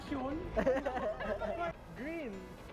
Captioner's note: laughter